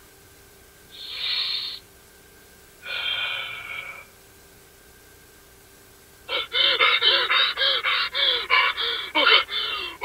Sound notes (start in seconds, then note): 1.0 inhale; 2.8 exhale; 6.2 hyperventilating